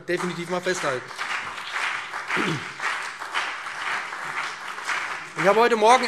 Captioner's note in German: Beifall BÜNDNIS 90/DIE GRÜNEN und CDU